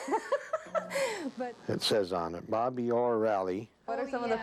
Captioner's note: laughing